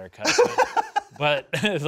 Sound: laughs

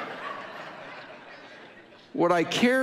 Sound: audience laughing

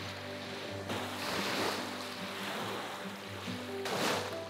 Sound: waves rippling

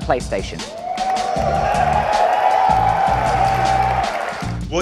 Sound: audience cheers

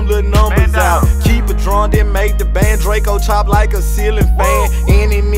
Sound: woo

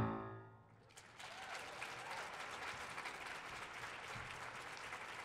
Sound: audience applauding

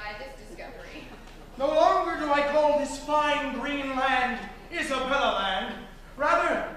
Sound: MARVIN, spoken

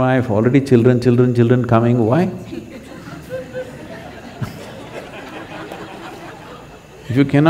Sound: laughter

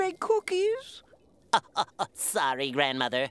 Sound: laughing

